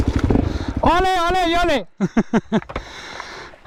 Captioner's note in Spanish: risas